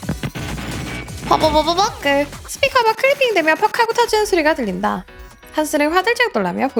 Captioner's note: buzz, buzz, buzz